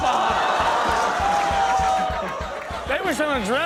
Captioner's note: audience laughs